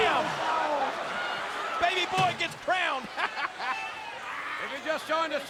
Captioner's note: laughs